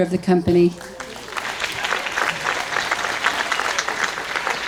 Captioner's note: audience applauds